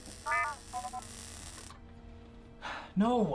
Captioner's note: R7 chirping on comlink